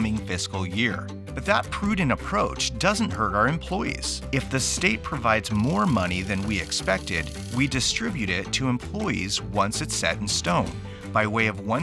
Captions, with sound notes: about the upcoming fiscal year. But that prudent approach doesn't hurt our employees. [crank rattling] If the state provides more money than we expected, we distribute it to employees once it's set in stone